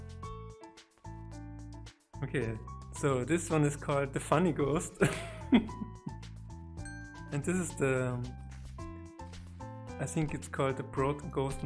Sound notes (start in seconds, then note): 5.0 dies from laughing